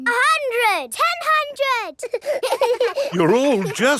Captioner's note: children laughing